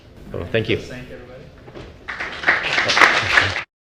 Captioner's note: applause